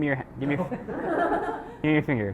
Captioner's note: laughs